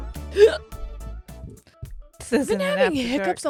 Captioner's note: hiccuping loudly